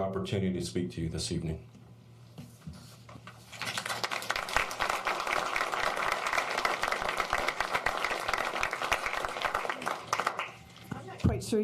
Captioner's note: applause